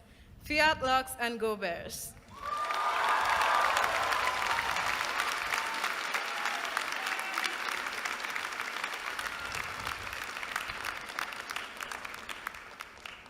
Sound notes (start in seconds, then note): 2.3 applause